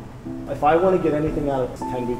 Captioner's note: male Voice